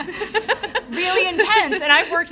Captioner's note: audience laughing